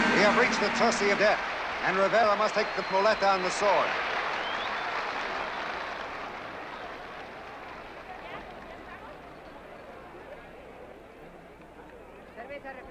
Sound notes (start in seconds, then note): 4.8 applause